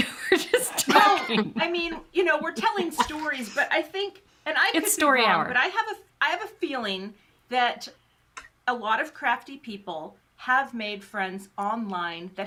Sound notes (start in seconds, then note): 0.0 chuckles